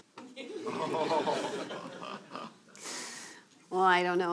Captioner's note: laughter